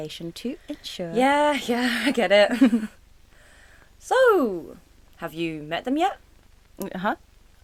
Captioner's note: laugh